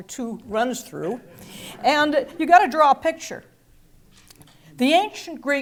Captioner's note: laugh